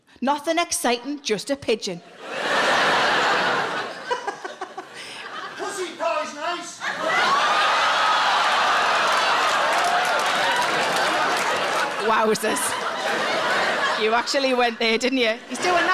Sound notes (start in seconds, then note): 7.5 audience laughing and applauding